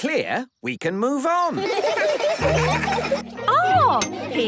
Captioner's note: laughter